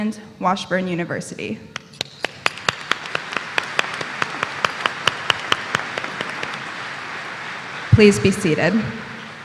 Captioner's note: applause